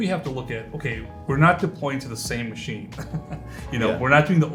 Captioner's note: laughs